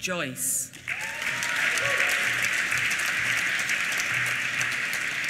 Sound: applause

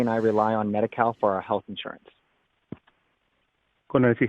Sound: speaking spanish

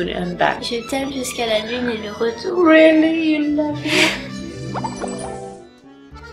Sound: snickering

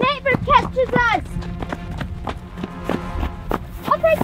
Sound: footsteps

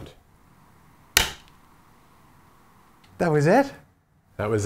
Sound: slap or hit

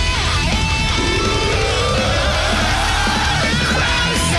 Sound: growling

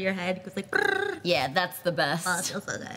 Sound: imitates vibration buzzing

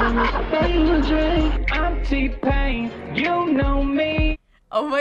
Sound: autotuned

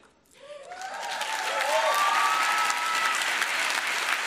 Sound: applause

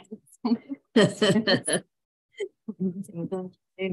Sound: laughing

